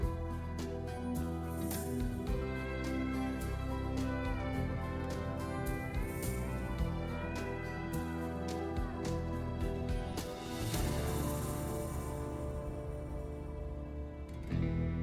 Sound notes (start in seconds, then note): none